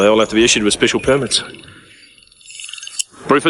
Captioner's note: phone ringing